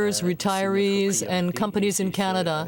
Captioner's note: speaking French